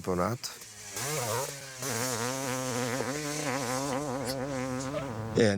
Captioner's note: motorcycle engine